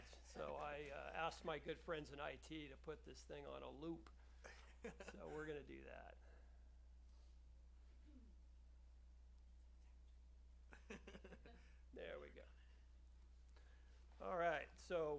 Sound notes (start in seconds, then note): 4.4 laughs; 10.7 laughter